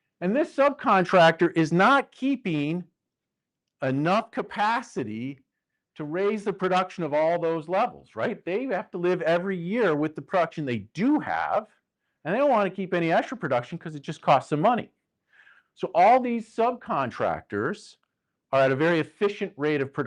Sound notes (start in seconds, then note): none